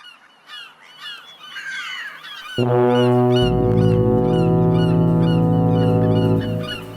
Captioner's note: seagulls squawking and fog horns blowing